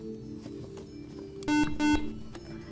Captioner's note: buzzer